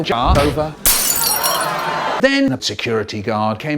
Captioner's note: glass Shatter; audience Anger